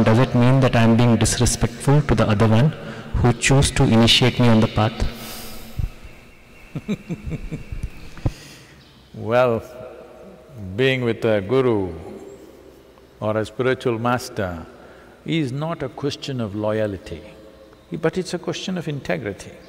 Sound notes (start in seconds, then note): 6.6 laughs